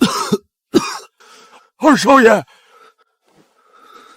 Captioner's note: cough